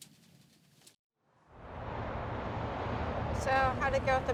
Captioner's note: various traffic noises